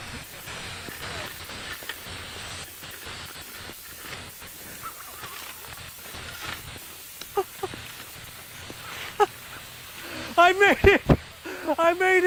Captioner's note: laughter